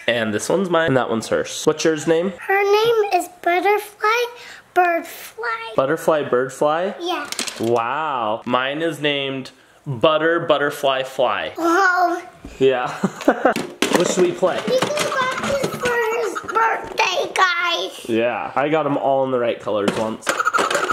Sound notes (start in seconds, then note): 12.8 laughs